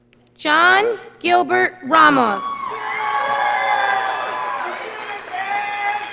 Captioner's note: audience applauding